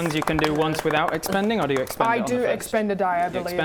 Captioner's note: round of applause